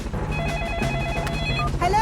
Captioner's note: phone ringing